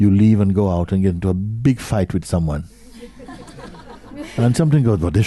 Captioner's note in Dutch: gelach